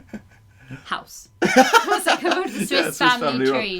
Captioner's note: laughter